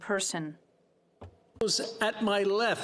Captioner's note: speaking French